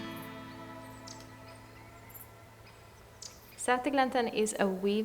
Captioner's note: birds tweeting